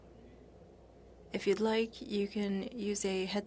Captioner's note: speaking French